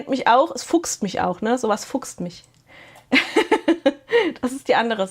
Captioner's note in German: gelächter